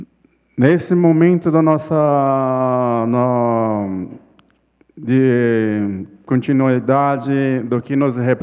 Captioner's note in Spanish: ponente habla en portugués